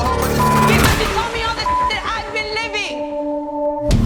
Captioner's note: beep